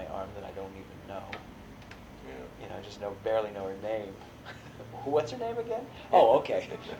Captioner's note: laughs